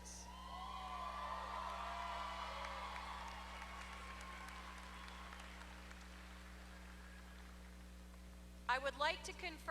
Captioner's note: applause